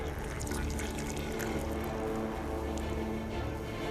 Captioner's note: sound of liquid pouring out